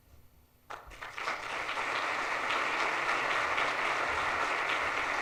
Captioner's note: audience applauds